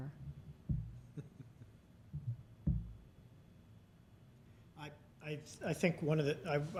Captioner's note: chuckling